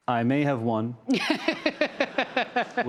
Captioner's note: laughter